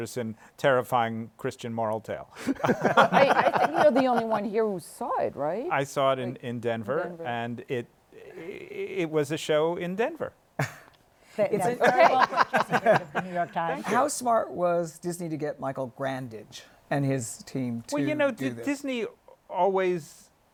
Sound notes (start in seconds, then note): 2.4 laughter